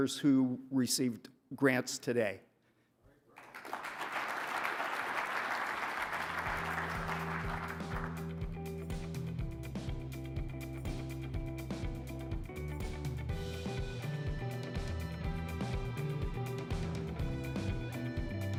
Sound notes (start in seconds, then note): 3.3 audience applauding; 9.8 upbeat music